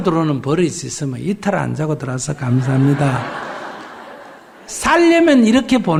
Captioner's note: audience Laughter